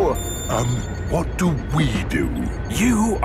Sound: whispering

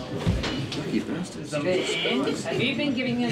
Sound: chattering

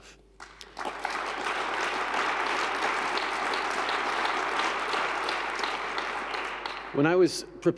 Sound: applause

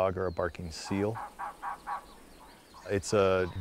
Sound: cawing

